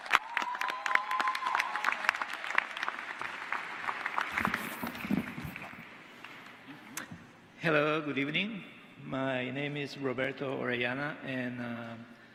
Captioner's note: applause